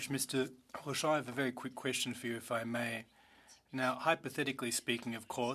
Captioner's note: speaking French